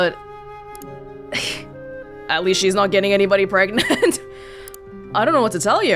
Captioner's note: chuckles